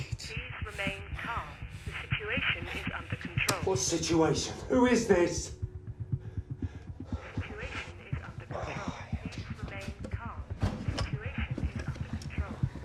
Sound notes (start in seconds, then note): 0.3 intercom; 7.2 intercom voice